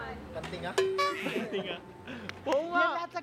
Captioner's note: laughter